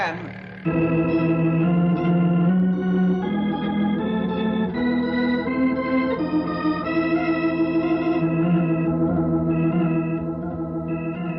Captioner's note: engine revving